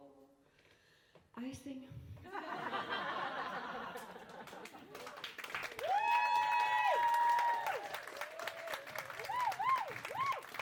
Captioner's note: applause